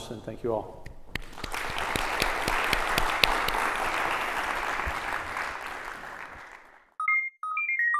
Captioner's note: applause